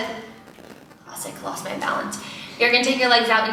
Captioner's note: under her breath